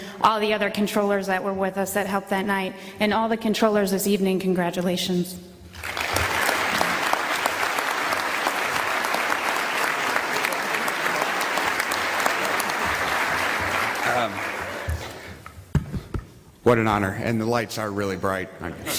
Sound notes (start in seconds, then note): 11.3 applause